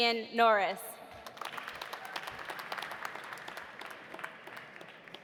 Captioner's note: audience applauding